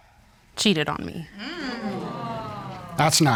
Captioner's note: audience groans